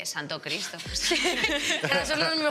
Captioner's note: laughs